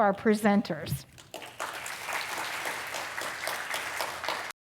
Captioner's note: applause